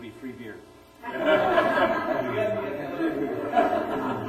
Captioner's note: laughter